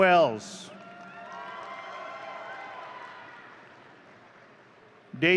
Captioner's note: audience cheering